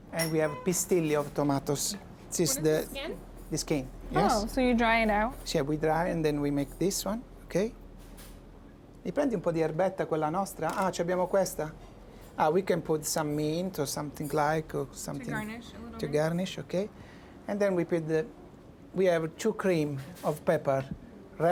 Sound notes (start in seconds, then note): 1.1 Italian; 9.2 speaking Italian